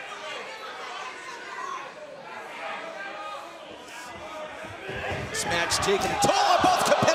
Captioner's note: crowd chatter